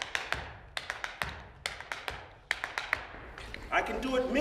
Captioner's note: tapping